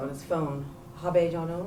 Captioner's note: non-english